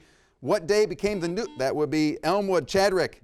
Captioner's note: buzzer rings